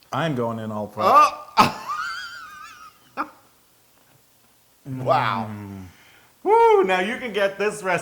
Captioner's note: laugh